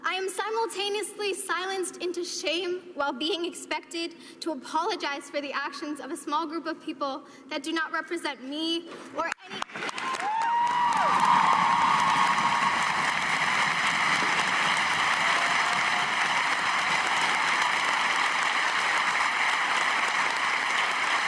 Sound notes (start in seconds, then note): 17.6 cheers and applause